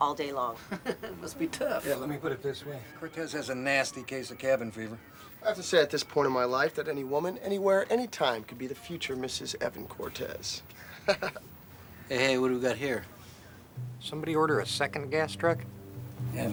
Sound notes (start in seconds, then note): 0.6 chuckles; 10.7 chuckles